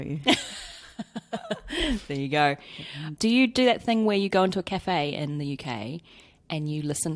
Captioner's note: laughs